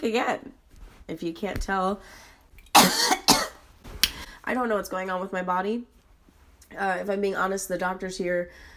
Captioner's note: cough, lip smack